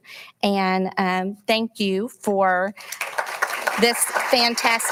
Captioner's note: audience applauding